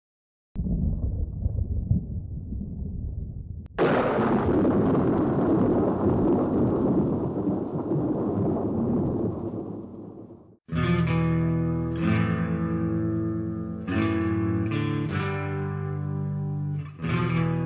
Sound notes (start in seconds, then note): 3.4 lightning striking